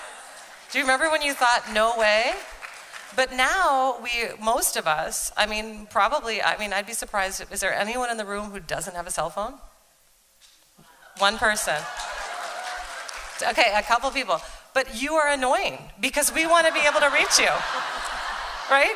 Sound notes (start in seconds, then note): 0.0 audience agreeing; 11.6 applause; 16.6 laughter